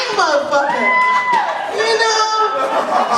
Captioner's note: cheering